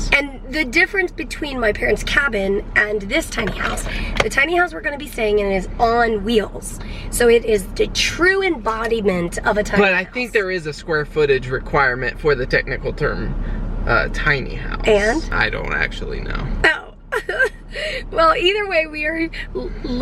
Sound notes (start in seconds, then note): 17.1 laughter